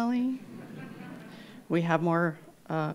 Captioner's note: laughter